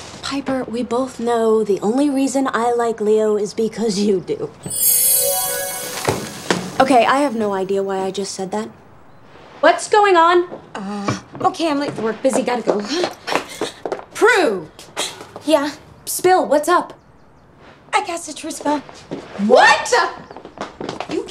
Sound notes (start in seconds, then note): 4.6 bells gently chiming